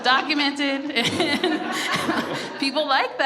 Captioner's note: everyone laughs